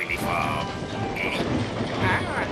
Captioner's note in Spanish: traqueteo del tren